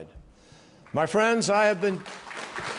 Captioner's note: applause